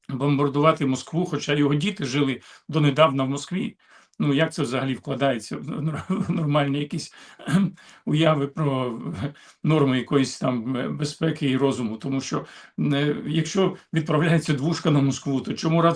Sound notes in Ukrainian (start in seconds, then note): 5.9 прочищення горла